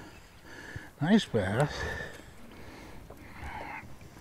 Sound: fish splashing

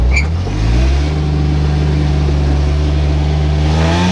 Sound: engine revving

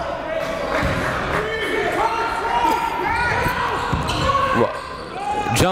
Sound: yelling and cheering

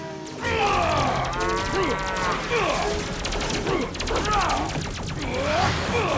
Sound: grunts

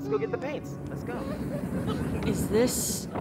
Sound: oncoming train

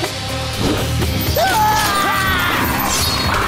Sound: screaming

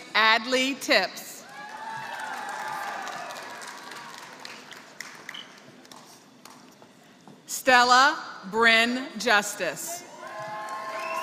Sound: applause; applause

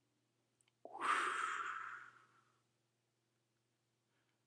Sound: breath whooshing

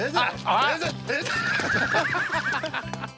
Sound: laughs

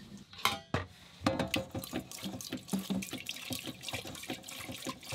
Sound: water splashing

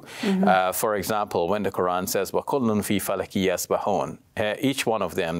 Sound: speaks in Arabic

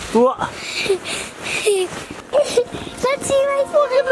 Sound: laughs

